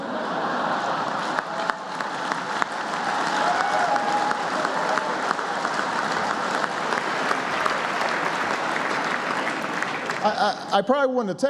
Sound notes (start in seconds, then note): 10.2 applause; 10.2 laughter